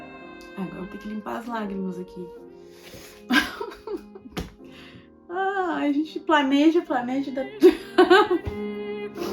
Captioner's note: laughs